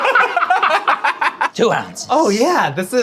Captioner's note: laughing